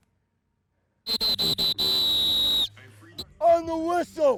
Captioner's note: whistle blowing